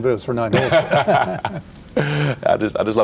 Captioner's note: both laugh